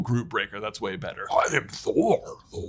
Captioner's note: in the voice of Groot